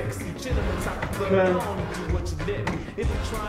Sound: voiceover

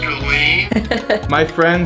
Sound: laughing

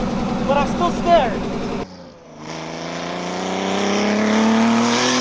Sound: car engine roaring

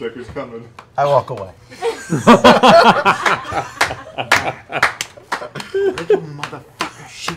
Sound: laughter

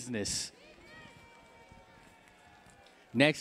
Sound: cheering

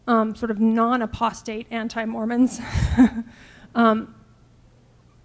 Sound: laughing

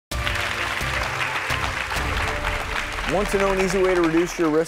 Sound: audience applauding

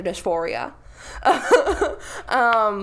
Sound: laughs

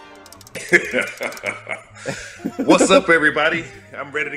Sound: laugh

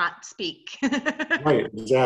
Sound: chuckling

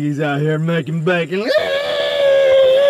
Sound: pig noises

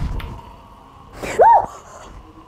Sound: screams

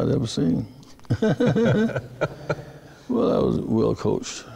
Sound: men laughing

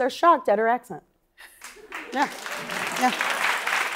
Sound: applause

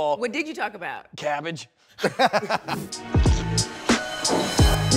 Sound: laughs

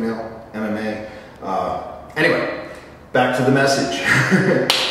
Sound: laugh

